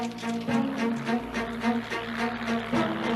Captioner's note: aeroplane approaching